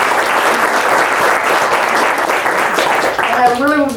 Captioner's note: audience claps